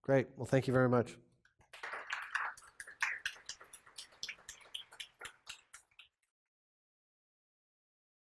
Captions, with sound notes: Great, well thank you very much. >> [APPLAUSE]